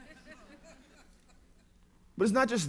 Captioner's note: laughter